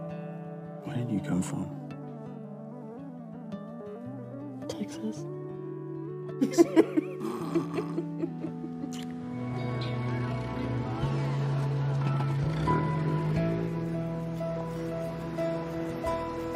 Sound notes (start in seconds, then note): 6.4 Heather and Jack laughs; 8.8 lips smack; 10.2 upbeat music